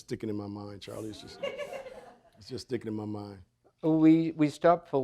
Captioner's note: audience laughing